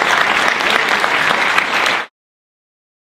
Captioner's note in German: Applaus